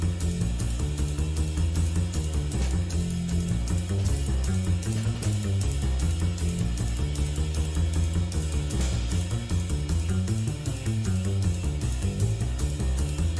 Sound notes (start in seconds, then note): none